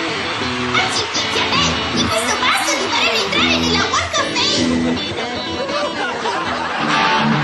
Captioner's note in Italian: risate